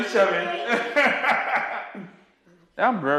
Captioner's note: laughs